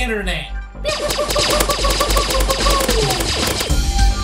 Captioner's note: more fake laser gun noises